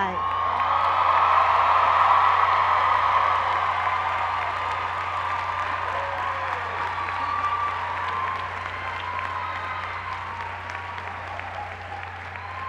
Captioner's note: cheers and applause